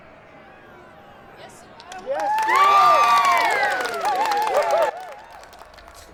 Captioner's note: crowd